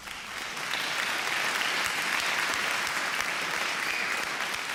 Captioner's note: audience applause